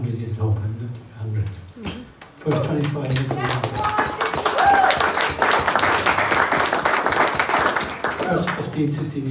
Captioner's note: loud applause